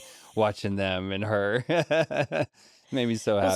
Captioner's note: laughs